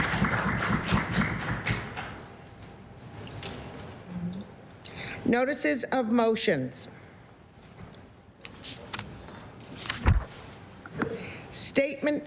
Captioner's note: applause